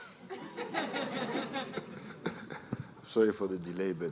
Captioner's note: laughter